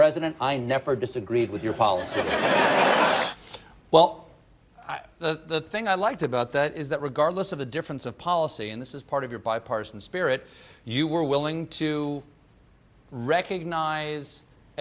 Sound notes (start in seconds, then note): 1.6 laughter